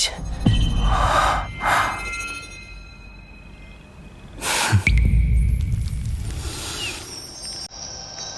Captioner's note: lowering his head, letting out a pitiful sigh